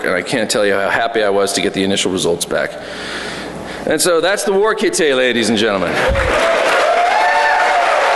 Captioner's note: applause